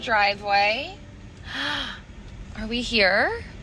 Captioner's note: gasps